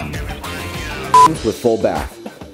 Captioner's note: beep